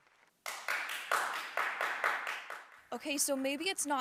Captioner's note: man clapping